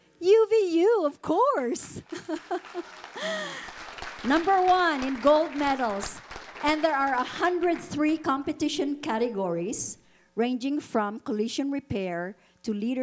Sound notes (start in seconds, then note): 2.1 audience applauding